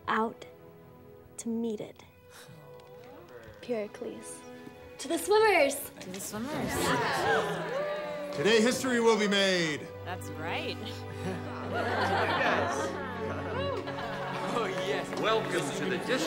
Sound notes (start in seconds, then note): 6.8 class cheers; 11.2 class laughs